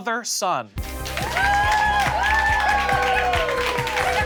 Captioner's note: audience cheers